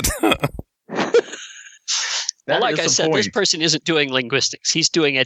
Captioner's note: laughter